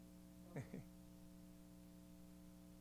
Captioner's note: laughs